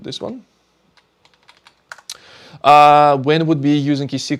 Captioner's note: keyboard clicking